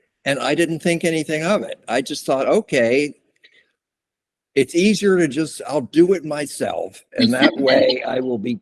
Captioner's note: laughter